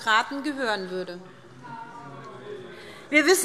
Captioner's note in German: Zurufe CDU